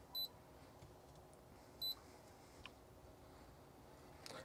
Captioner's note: beeping sound